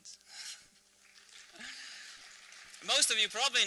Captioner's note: applause